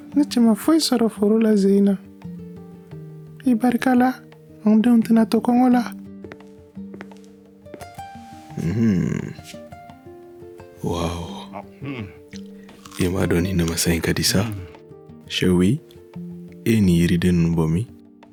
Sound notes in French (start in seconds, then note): 8.5 Murmures; 8.6 Murmures d'admiration